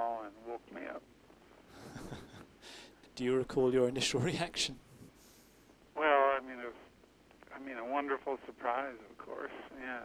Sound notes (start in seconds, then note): 1.7 laughs